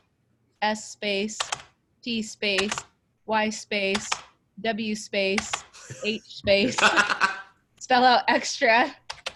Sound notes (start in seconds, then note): 5.8 laughing